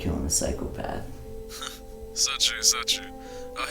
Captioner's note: Greg's Voice Through Phone; laughs